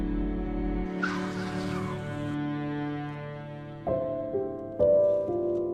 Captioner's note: tires screeching